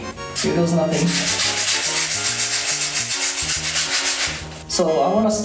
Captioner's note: scrubbing noises